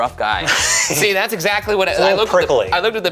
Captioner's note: laughing